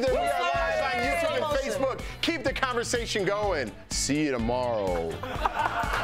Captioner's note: laughter